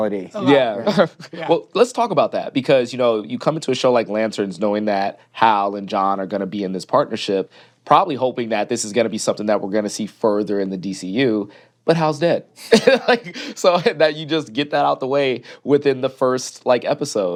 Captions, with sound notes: Yeah. Well, let's talk about that, because, you know, you come into a show like Lanterns knowing that Hal and John are gonna be in this partnership, probably hoping that this is gonna be something that we're gonna see further in the DCU, but Hal's dead. (LAUGHS) So-- And you just get that out the way within the first, like, episode.